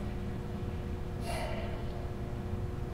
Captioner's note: Rajbir sighs